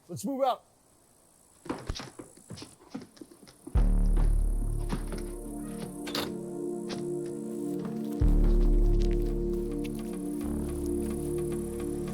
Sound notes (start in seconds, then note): 6.0 door slams